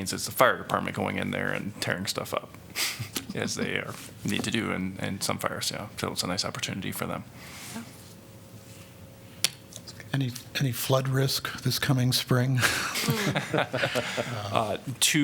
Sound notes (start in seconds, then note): 2.8 laughter; 12.6 laughter